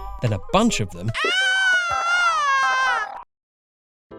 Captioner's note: weird screaming